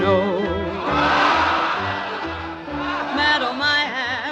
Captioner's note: crowd laughing